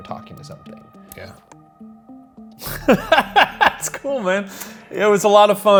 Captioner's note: laughs